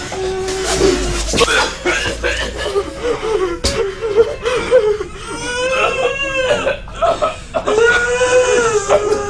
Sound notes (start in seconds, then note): 1.2 retches; 5.4 all sob in distress